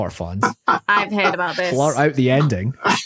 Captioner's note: laughs